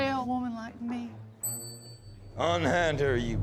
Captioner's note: bell dings